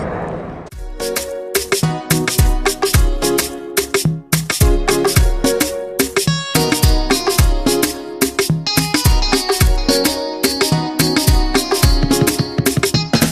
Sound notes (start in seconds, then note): none